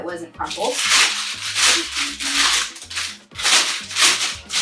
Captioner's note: paper crumpling